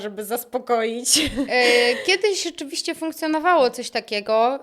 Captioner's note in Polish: śmiech